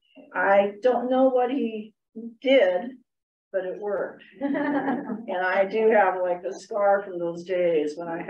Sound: laughter

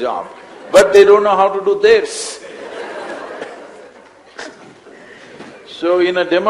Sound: laughter

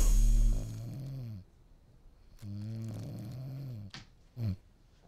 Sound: snoring

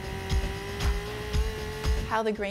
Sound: chainsaw buzzing; upbeat music

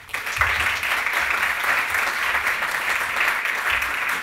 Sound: applause

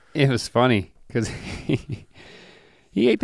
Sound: chuckles

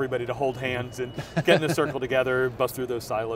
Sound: laughs

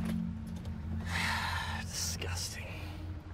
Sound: sighing

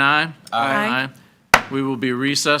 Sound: gavel bangs

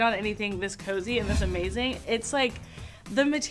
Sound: air whooshing

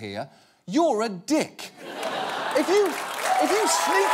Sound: audience laughing

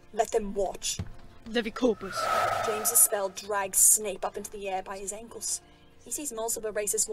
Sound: magic casting

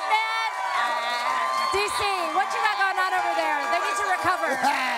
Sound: cheering

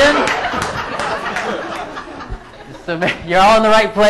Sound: laughing

